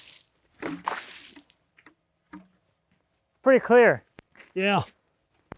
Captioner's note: water splashes